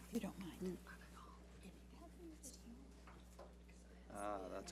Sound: women whispering

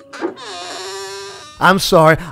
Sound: door creaks

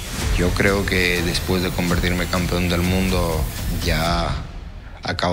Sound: speaking in Spanish

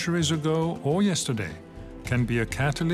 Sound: speaks French

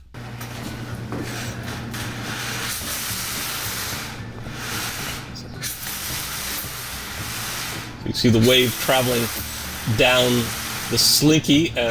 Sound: Slinky Scraping Noise

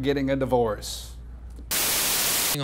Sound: Static

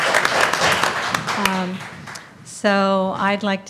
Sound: applause

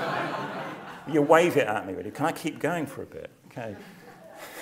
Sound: laugh

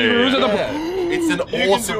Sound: gasp of childlike wonder

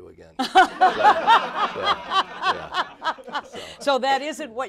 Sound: laughter

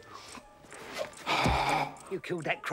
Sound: gasping

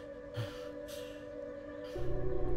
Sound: sighs

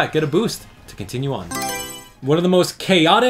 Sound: Mario Selection Sound

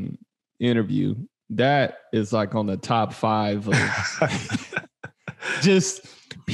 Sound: all laughing

